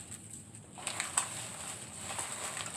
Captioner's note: crackling sound